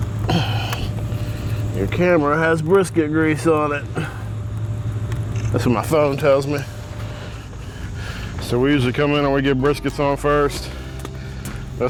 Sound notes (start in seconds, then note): 0.2 sighs